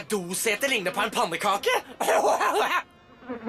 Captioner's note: laughs